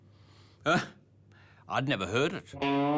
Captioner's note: chuckles